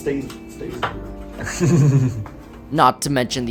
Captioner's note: chuckles